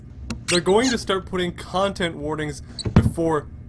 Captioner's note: cabinet door opening; cabinet door shutting